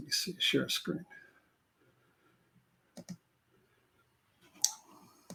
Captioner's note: computer keys clicking